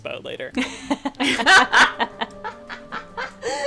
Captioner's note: laughing